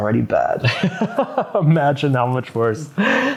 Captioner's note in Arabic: يضحك